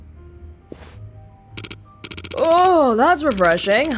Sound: none

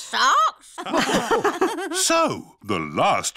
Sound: all laugh

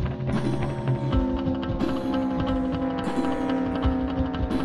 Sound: car engine roars

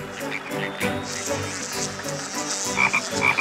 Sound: croaking; buzzing; croaking, buzzing

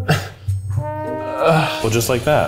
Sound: grunting; moaning?

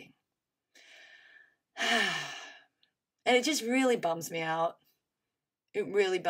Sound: sighs heavily

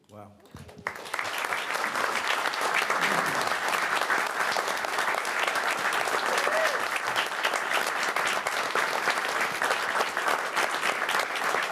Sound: applause

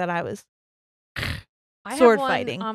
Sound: makes stabbing sound

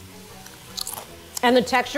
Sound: chip crunching

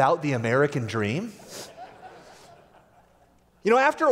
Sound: laughter

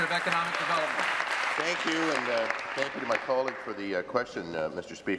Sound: applause

